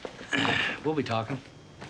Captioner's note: clears throat